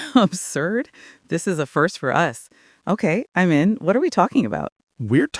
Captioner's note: laughing